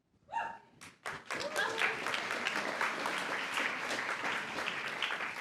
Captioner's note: applause